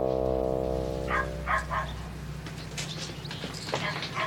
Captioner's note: dog barking